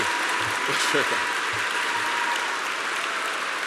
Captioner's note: applause